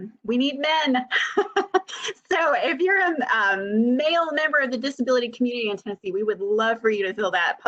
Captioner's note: laughter